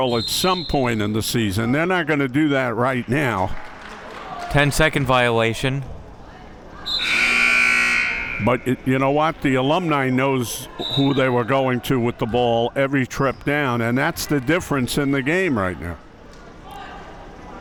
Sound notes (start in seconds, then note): 6.8 whistle being blown; 6.8 buzzer sounding